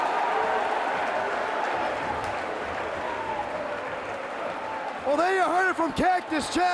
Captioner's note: crowd cheering